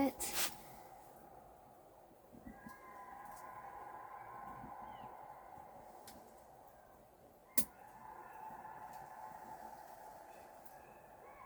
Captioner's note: howls of jackals